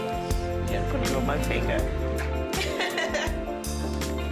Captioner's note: laughs